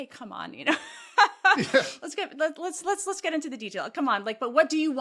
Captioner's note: laugh